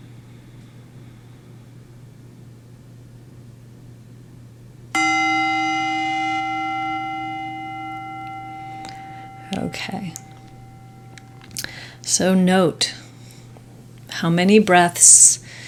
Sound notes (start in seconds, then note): 4.9 bell rings louder